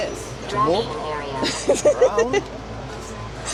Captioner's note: laughing